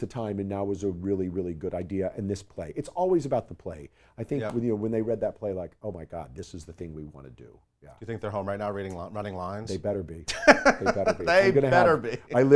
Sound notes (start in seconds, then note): 10.2 laughs